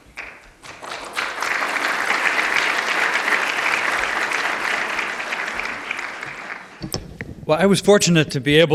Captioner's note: applause